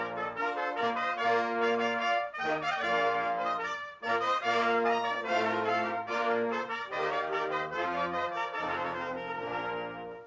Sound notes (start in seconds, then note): none